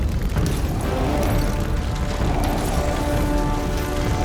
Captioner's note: Loki growls